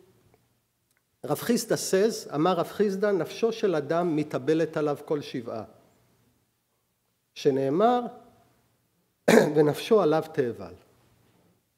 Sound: speaking hebrew

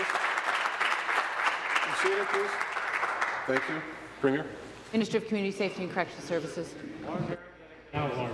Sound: applause

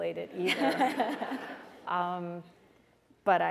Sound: laughter

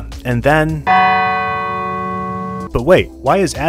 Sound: bell bongs

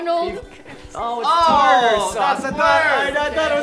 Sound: groaning

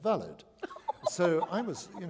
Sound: laughter

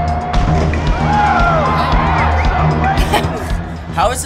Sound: laughs

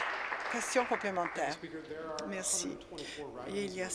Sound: applause

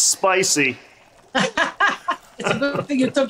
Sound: laughs

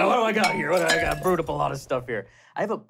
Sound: clattering

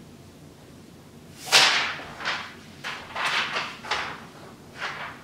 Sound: paper rustles

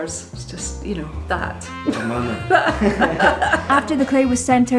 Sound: laughs

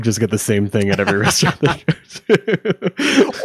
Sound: laughing

